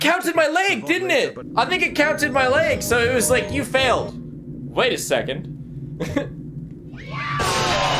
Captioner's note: laughs